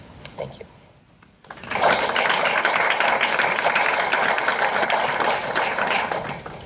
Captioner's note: applause